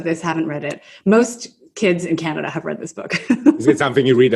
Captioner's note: laughs